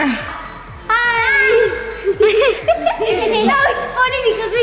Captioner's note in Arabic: كلاهما يضحكون